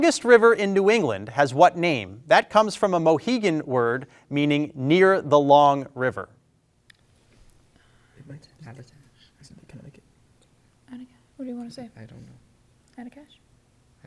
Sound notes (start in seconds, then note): 8.2 group whispering; 13.8 group whispering